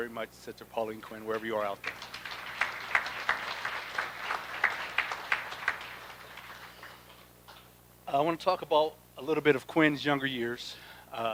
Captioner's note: applause